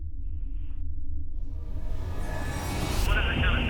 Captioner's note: police radio chatter; eerie music